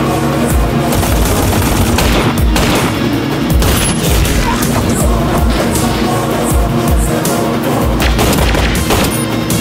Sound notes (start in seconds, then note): 0.8 rapid gunfire; 1.9 gunshot; 8.0 gunshot